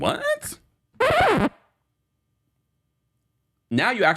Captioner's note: record scratch